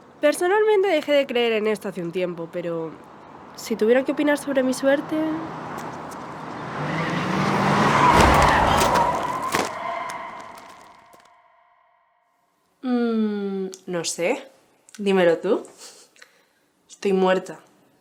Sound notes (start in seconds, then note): 8.9 crash